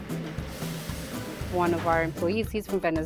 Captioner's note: meat sizzles